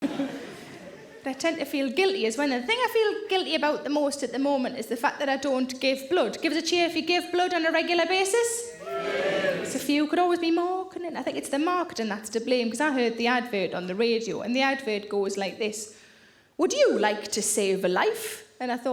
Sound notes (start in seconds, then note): 0.0 audience laughs; 8.7 audience cheers